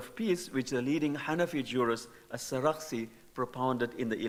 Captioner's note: speaking in foreign language